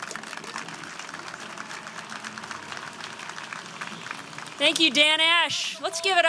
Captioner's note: applause